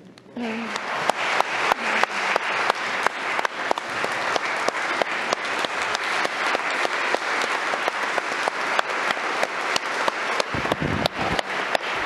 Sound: applause

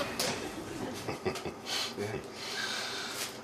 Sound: laughs lowly

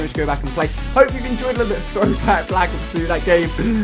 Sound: laugh

